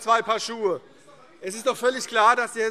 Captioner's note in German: Vereinzelter Beifall CDU